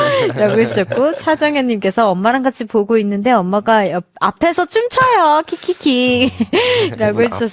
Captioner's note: laughs